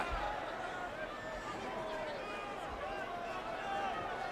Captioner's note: crowd cheering